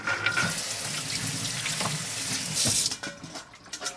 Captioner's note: water rushes